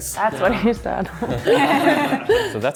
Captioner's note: laughing